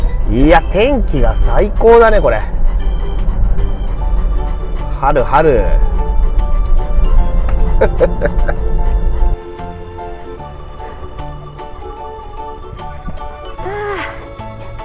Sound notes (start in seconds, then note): 7.8 laughs